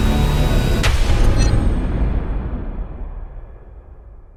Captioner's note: thunder